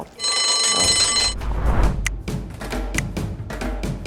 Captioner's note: bell ringing